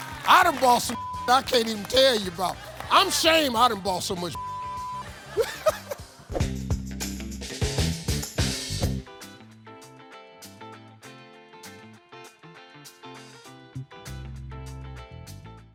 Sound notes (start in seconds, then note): 5.1 laughs; 5.3 upbeat music; 9.2 bright cheery music